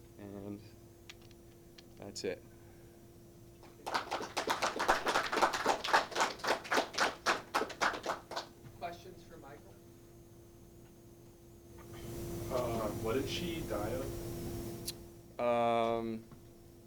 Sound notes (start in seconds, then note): 3.6 clapping